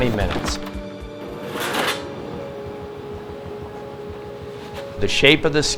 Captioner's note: boards clattering